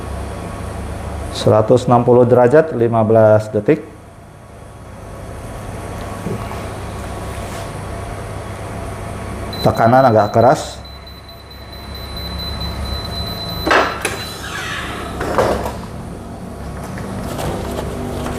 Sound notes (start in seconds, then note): 9.5 beeping sound; 13.6 press machine noise